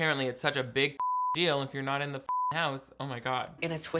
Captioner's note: beep